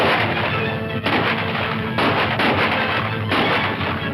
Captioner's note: guns firing